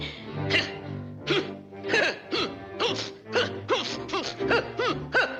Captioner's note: Daffy scoffing and huffing